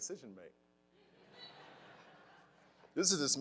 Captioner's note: crowd laughing